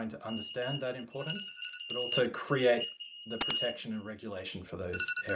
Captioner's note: timer chiming